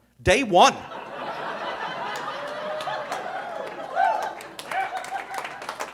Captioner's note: audience laughing